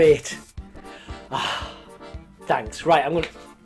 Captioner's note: exhales loudly